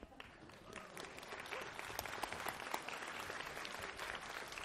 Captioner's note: applause